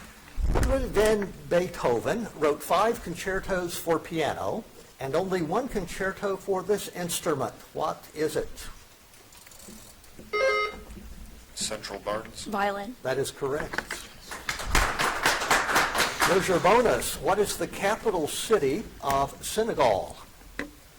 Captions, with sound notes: Ludwig Van Beethoven wrote five concertos for piano, and only one concerto for this instrument. What is it? (buzzer dings) - Central. Barnes. - Violin. - That is correct. (audience applauds) Here's your bonus. What is the capital city of Senegal?